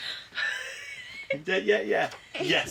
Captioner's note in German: lacht